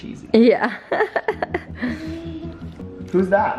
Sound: laughs

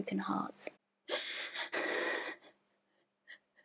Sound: Minnie sobs

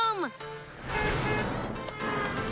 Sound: distant car horn beeping

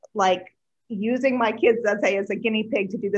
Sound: none

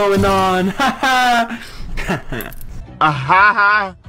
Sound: awkward laugh

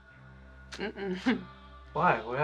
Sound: she chuckles

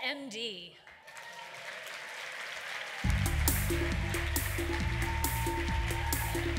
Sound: applause

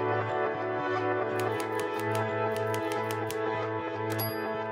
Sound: keys clicking

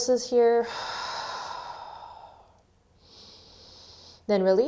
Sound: heavy breathing

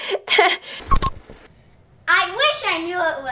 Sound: laughs; beep

